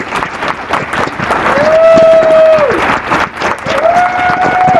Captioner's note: applause